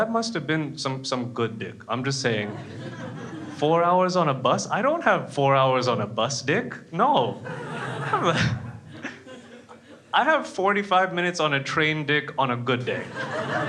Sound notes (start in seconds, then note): 7.4 laughs; 12.9 crowd laughs